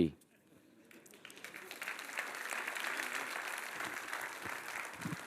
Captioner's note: audience applauds